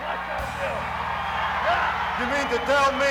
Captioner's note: crowd cheers